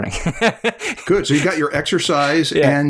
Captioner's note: laughter